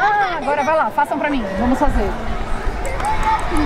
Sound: claps

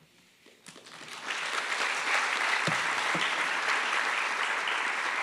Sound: attendees applauding

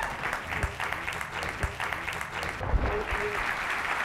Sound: speaking faintly

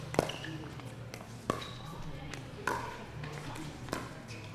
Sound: ball bouncing

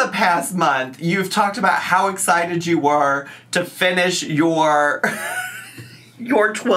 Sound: laughs

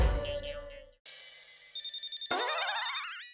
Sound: phone ringing

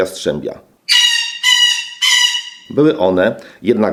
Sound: parrot sounds

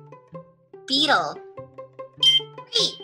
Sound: voiceover; ringing

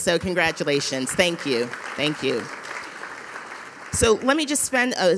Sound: audience applauding

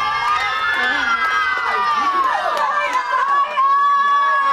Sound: cheering

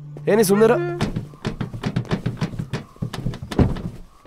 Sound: car dicky sound

